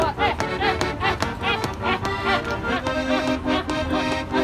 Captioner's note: cheers throughout